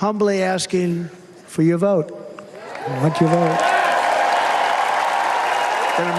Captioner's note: applause